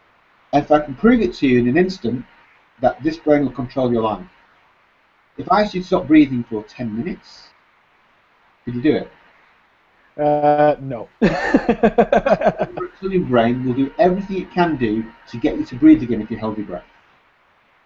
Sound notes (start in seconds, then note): 11.2 laughs